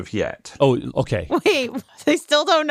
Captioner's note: laughs